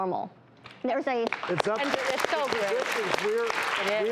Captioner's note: audience clapping